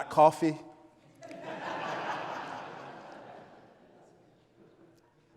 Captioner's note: audience laughs